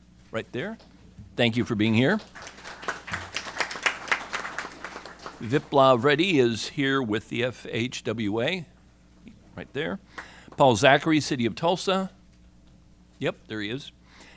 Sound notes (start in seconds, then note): 1.9 applause